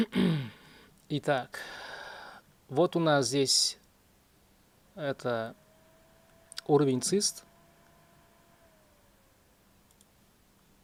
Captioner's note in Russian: кашель; откашливается; тяжело вздыхает